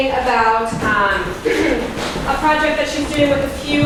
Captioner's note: clears throat